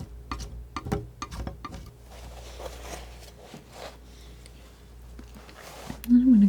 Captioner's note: tapping